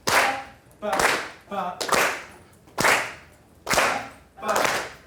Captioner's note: clapping; voiceover